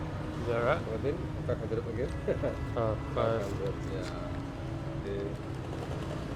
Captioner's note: store clerk speaks in a foreign language